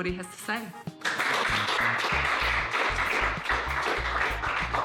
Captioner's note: applause